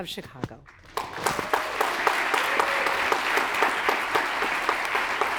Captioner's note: audience applauds